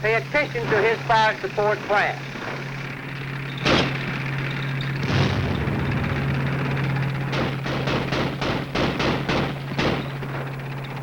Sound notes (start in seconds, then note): 3.9 tank rumbling; 5.0 gunshots booming